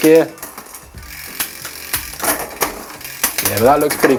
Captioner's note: gears ticking